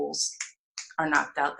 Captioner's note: snaps fingers